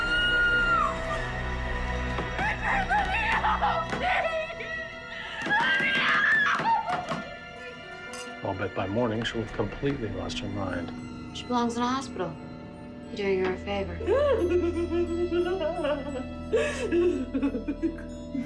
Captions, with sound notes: [anna screaming] Richard, let me out, please! Let me out! [wine glasses clinking] I'll bet by morning she'll have completely lost her mind. She belongs in a hospital. We're doing her a favor. [anna laughing maniacally]